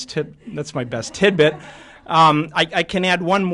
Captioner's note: laughter